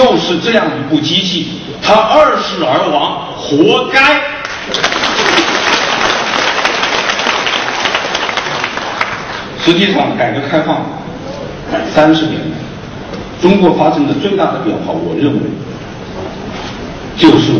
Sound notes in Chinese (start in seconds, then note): 9.6 掌声